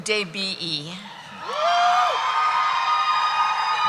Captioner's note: cheering